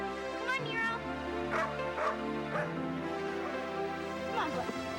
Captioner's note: Nero barking